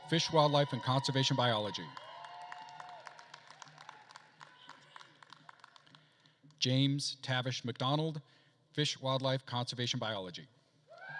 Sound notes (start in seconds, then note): 2.2 attendees cheering and applauding; 11.0 attendees cheering and applauding